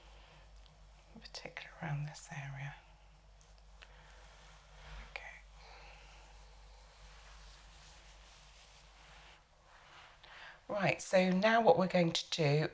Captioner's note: silence